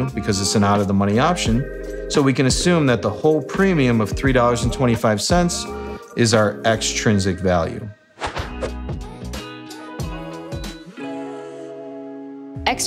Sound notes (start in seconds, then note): 8.2 air whooshing; 9.2 relaxed music